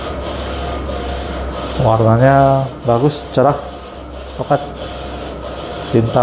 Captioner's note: printer machine noise